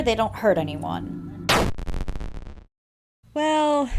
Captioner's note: bite of '83 sound effect